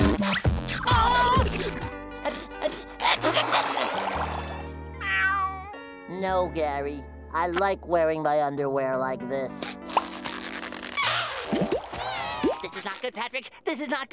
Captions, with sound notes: Oh! [sneezes] [meowing] No, Gary. I like wearing my underwear like this. [squeaking] This is not good, Patrick. This is not good!